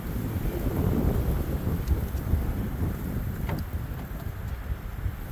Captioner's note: wind howling